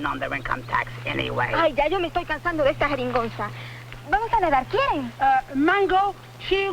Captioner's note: speaking spanish